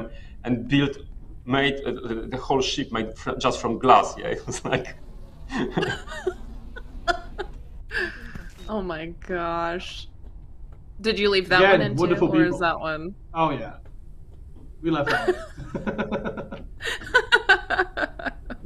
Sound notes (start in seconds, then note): 5.4 laughs; 15.0 laughter